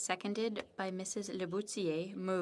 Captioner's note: speaking in french